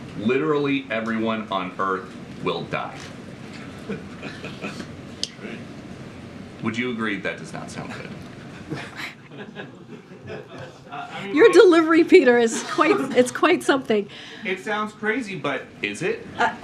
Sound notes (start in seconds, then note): 8.4 laughs; 8.5 laughter